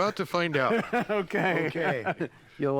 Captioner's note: laughs